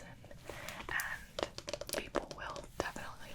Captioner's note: tapping